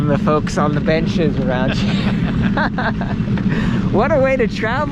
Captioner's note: laughing